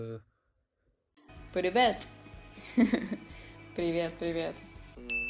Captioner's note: laugh